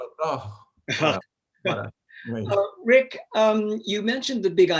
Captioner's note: laughing